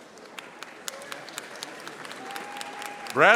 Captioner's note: audience applauding